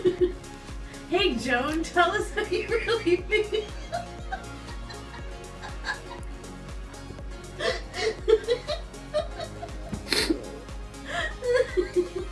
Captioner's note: collapses from laughing